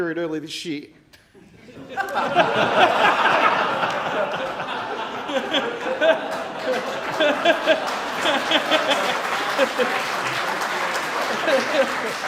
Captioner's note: applause; laughter